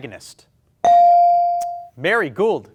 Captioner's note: bell ring